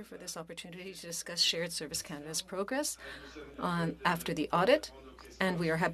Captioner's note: speaking French